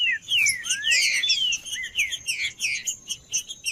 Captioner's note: trinca ferro cantando